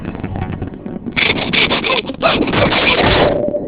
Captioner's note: panting frantically